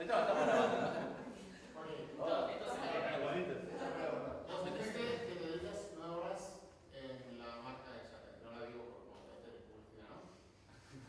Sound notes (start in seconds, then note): 1.9 indistinct chatter